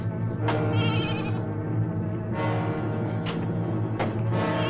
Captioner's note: goat bleating